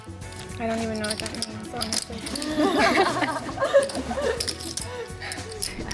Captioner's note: laughs